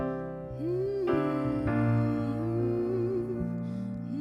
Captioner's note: humming